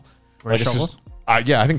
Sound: murmuring

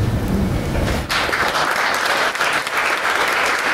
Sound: applause

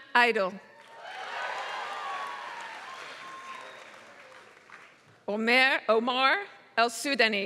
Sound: applause

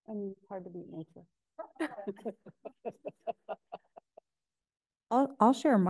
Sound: laughing

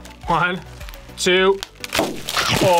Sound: bag pops; chomps

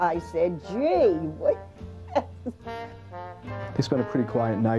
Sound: laughs

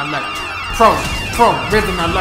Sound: sirens

